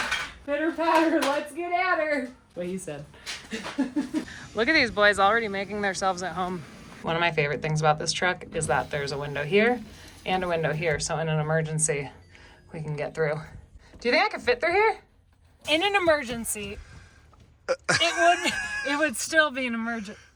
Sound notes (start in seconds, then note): 3.5 laughs